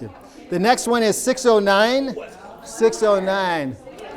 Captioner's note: laughing